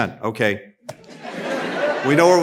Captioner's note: laughter